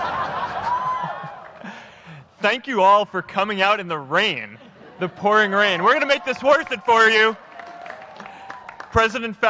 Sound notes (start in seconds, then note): 2.4 applause